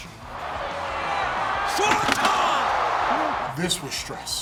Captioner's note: crowd cheering